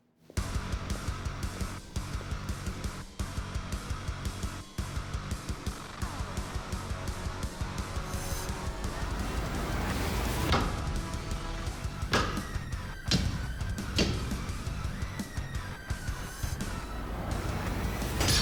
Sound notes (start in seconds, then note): 10.2 sword striking